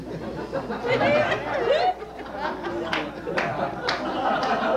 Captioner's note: laughter